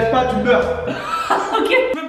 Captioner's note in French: rire